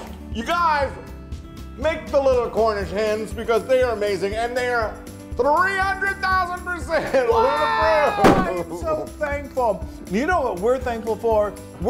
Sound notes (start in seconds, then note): 7.0 laugh